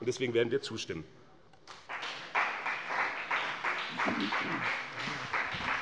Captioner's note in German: Beifall bei dem BÜNDNIS 90/DIE GRÜNEN und der CDU